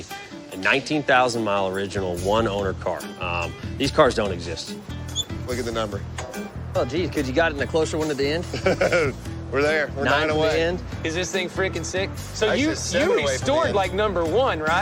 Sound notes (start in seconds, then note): 8.4 chuckles